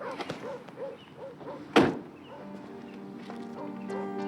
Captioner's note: dog barking; dramatic music